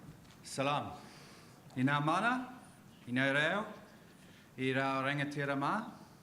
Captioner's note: man speaks in foreign language